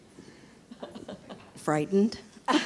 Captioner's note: chuckles